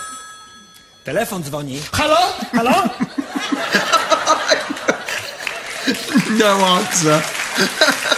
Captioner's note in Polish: śmiech